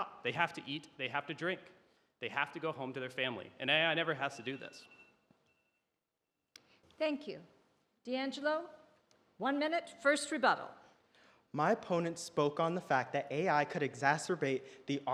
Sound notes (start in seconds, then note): 4.2 alarm beeps